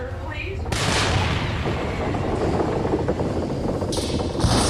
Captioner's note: building banging; electrics crackling